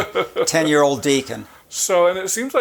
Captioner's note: chuckling